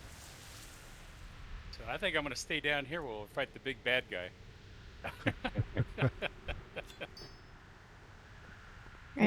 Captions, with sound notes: So I think I'm going to stay down here while we fight the big bad guy. [LAUGHTER]